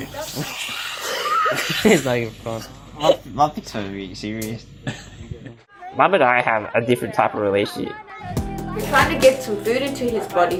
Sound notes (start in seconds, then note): 1.2 muffled laughter; 4.8 laughter